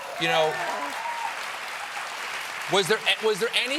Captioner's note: applause